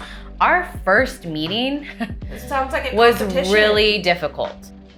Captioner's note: chuckle